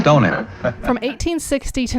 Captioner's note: people laughing